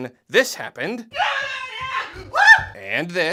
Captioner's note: squeling